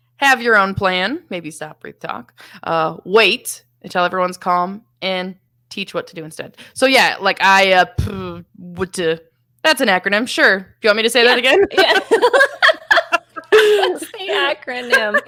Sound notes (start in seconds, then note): 11.4 both laughing